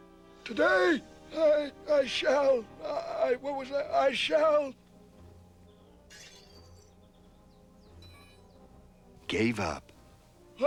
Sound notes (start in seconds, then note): 6.1 metallic sound